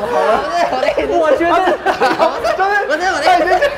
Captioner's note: laughing